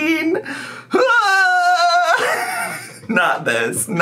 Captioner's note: screams